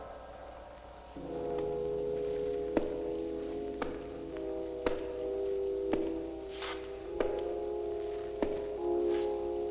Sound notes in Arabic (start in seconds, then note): 0.0 موسيقى هادئة; 1.2 خطوات قوية